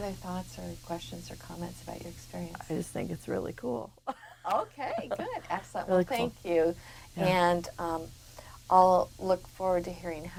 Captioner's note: laughs